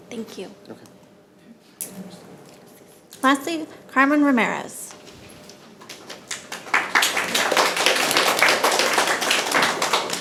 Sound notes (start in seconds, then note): 5.8 attendees clapping